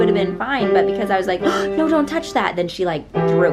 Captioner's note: gasping